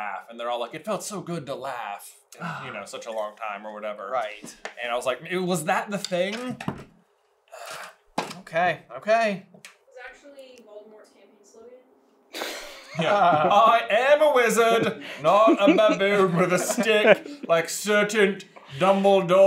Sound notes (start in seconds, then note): 12.3 laughter